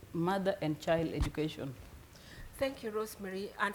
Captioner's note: none